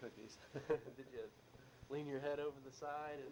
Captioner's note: both chuckle